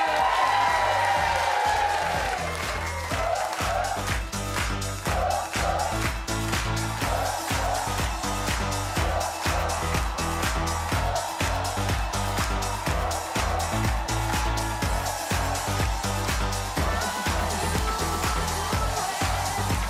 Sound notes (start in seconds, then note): 1.2 audience cheering; 1.2 upbeat music; 9.9 audience cheering; 9.9 upbeat music; 19.7 audience cheering